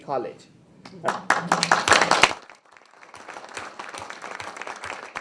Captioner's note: people applaud